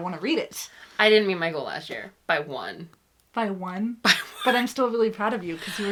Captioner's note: laughs